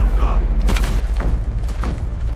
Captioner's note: kids playing